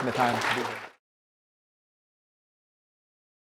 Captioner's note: applause